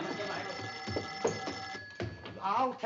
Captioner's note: phone ringing